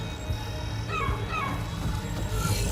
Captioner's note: Sentinel #5 barking